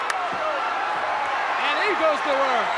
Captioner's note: audience cheering